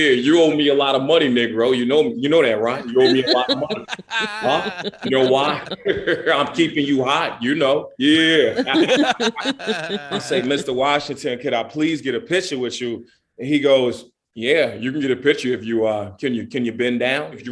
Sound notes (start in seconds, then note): 8.0 laughing